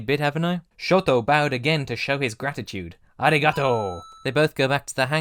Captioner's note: ding!